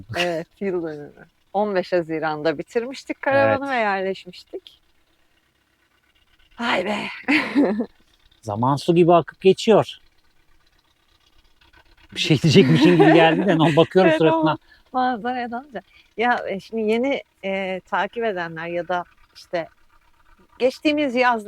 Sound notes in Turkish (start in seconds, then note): 12.2 kahkaha